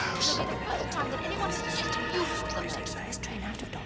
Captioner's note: bisikan panik